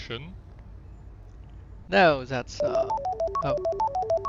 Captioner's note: phone rings